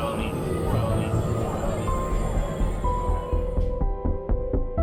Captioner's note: voice echoing; scary music